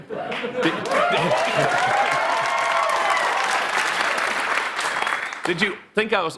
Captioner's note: audience clapping and cheering